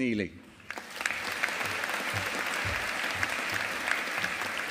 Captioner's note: audience applauding